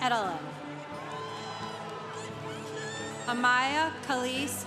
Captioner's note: congregation applauding